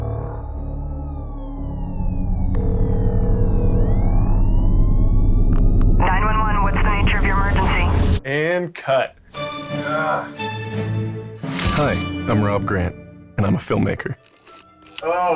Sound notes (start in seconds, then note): 3.8 police sirens; 9.8 groans